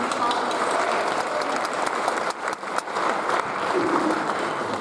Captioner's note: audience applauds